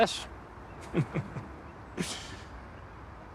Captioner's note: he chuckles